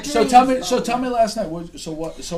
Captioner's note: voiceover